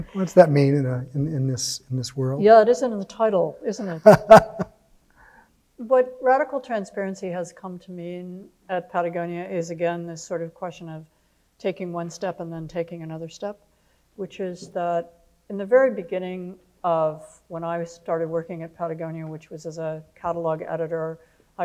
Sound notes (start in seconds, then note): 3.8 laughing